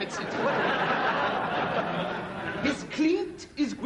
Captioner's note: audience laughter